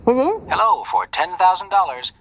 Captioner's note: on phone